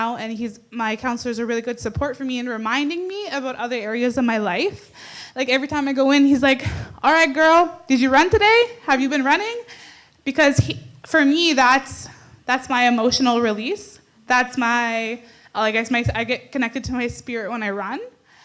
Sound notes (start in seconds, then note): none